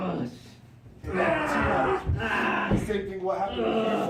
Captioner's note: pained screaming